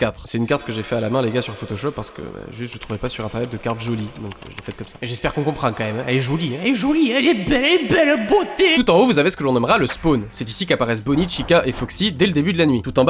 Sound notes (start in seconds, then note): 7.7 then saying french shit